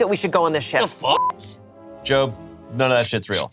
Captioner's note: beep